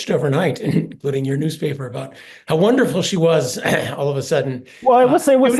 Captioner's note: cough